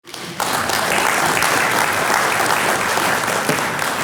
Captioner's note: audience clapping